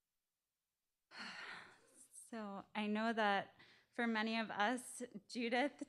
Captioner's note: sighing